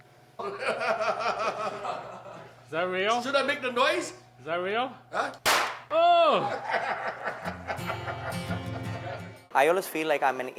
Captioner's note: laughing; more laughing